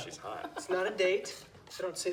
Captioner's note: Dobbs laughs